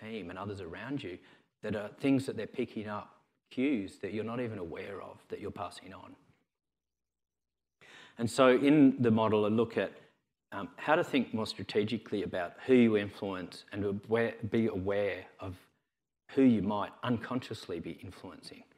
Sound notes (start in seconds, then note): none